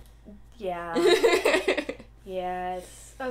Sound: laughter

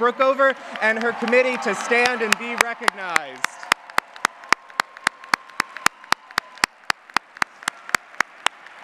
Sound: applause

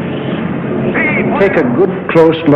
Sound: Hitler speaking German

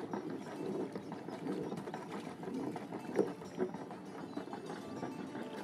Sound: sound of engine running

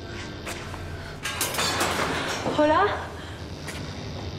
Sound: iron falling

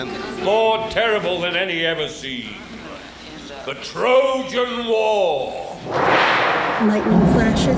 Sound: thunder

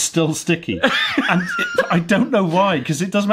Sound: laughs

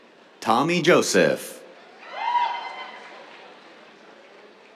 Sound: cheers

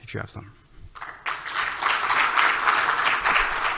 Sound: applause

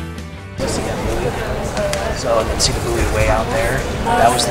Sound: people chatting indistinctly

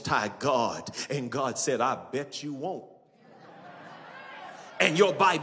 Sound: audience laughs

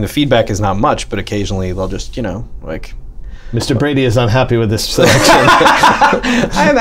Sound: laughter

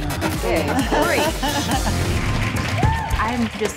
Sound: all laughing

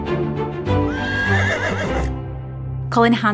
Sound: upbeat music; horse neighing

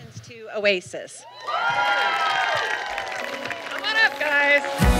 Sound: applause

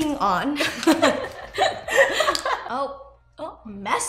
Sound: both giggling

